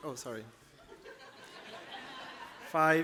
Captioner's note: laughter